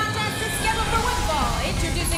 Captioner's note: bell ringing